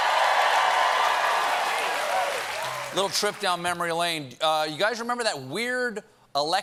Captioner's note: cheers and applause